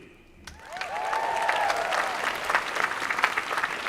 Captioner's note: applause